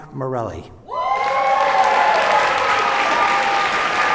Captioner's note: cheers and applause